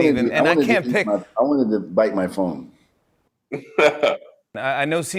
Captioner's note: light laughter